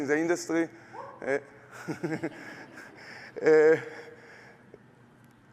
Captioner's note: laughter